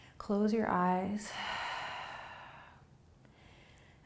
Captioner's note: exhaling